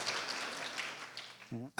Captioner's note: applause